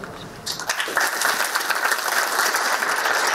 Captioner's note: applause